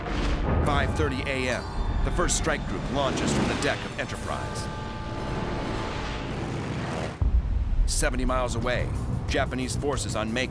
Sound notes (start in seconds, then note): 5.9 engines whining